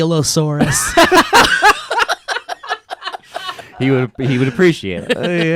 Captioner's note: laughing